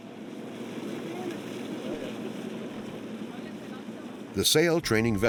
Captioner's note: indistinct chatter